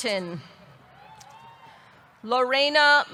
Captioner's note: audience cheering